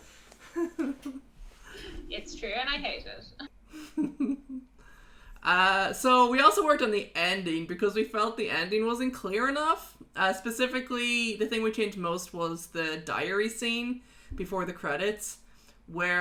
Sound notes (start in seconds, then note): 3.9 laughs